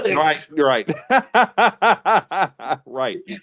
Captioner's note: laughs